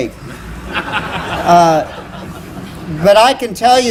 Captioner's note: laughter